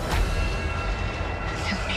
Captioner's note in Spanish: Disparos